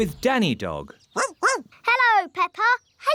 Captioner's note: barking